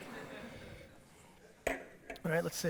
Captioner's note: audience laughter